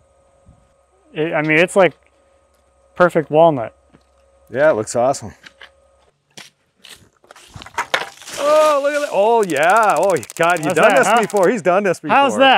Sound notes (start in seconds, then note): 8.8 water splashing